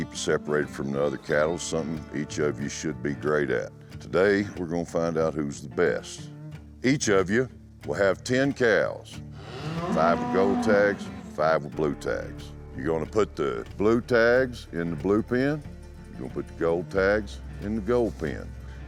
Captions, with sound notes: SEPARATED FROM THE OTHER CATTLE IS SOMETHING EACH OF YOU SHOULD BE GREAT AT. TODAY, WE'RE GONNA FIND OUT WHO'S THE BEST. EACH OF YOU WILL HAVE TEN COWS. [COW MOOS] FIVE WITH GOLD TAGS, FIVE WITH BLUE TAGS. YOU'RE GONNA PUT THE BLUE TAGS IN THE BLUE PEN. YOU'RE GONNA PUT THE GOLD TAGS IN THE GOLD PEN.